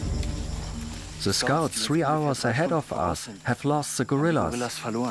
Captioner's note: in German